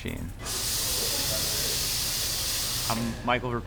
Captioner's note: espresso machine hissing